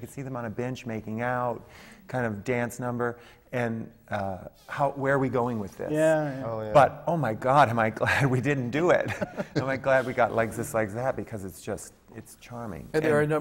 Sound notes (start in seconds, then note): 9.0 laughs